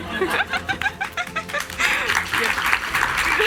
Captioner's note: laughs; audience applauds